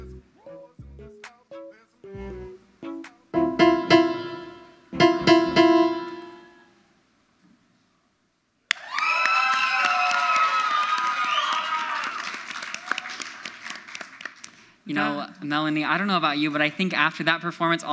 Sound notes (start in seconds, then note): 0.1 gentle music; 3.3 shrill piano music; 8.7 audience cheers; 8.7 audience applauds